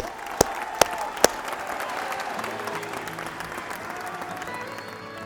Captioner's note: graduates cheering